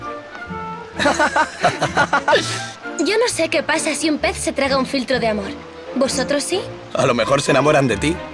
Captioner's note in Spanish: risas